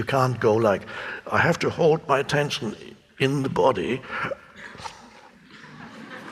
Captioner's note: hiccups; audience laughing